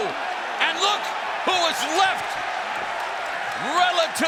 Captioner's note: fans cheering